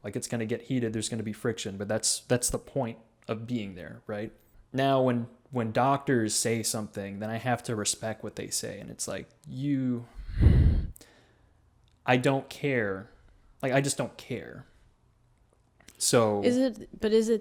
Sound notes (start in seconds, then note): 10.1 breathes heavy